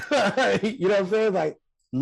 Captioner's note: Rel laughing